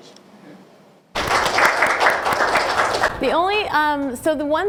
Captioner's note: audience applause